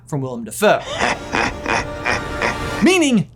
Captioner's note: Norman laughing